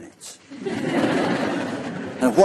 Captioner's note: laughter